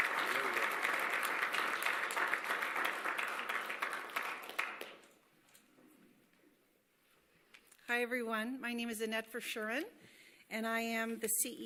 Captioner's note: applause